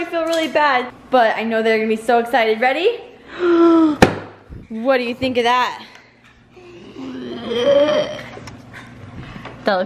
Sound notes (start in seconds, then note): 3.0 box bangs; 3.0 gasps; 6.6 growling